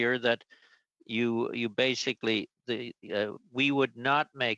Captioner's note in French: voix de l'interprète